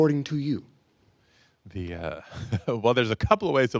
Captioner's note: chuckles